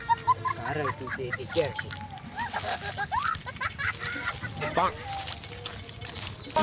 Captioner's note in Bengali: সশব্দ হাসি